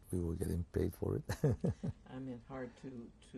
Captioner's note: laughs